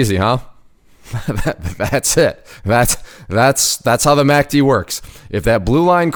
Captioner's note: chuckling